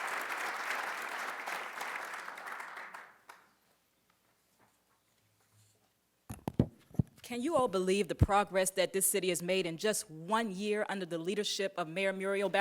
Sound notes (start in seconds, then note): 0.0 applause